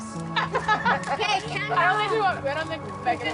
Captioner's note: laughs